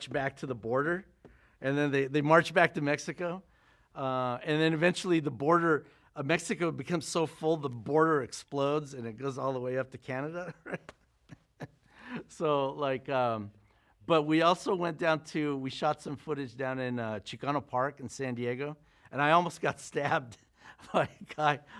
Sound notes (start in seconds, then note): 10.5 laughs